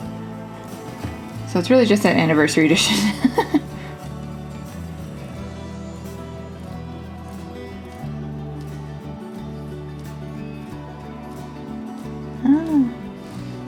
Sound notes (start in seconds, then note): 6.3 laugh